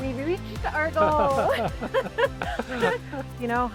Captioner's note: both laughing